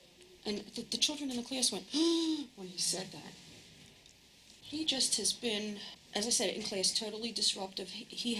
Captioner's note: gasp